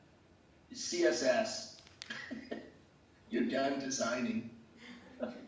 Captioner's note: laughs